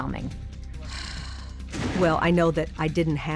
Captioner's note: sighs